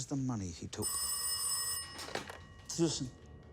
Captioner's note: phone rings